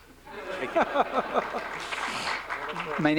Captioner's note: laughter, applause